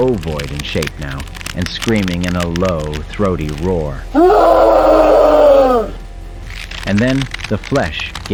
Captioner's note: Hutt Screaming